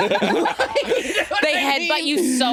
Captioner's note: all laughing